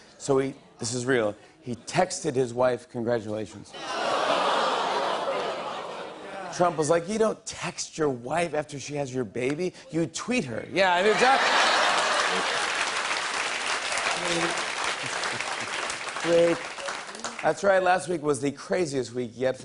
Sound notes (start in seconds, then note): 3.8 audience "ohh"s; 11.0 laughter and applause